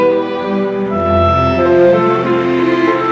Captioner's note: applause